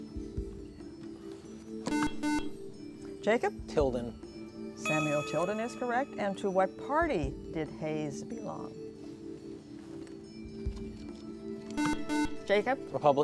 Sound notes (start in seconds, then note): 1.8 buzzer; 11.7 buzzer